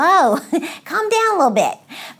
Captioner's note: laughs